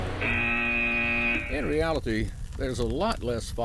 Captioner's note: buzzer